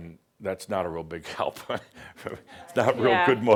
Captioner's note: Adamus chuckles